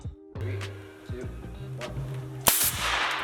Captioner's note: air rushing